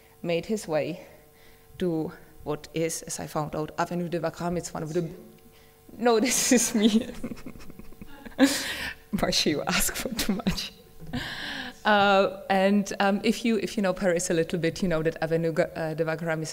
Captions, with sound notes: made his way to what is, as I found out, Avenue de Wagram. It is one of the - no, this is me. [Laughing] You ask for too much. [Laughing] And if you know Paris a little bit, you know that Avenue de Wagram is one